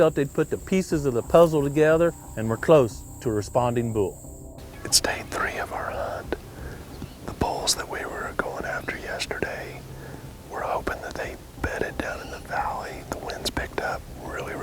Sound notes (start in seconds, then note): 4.9 whispering